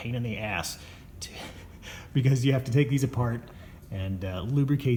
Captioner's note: chuckles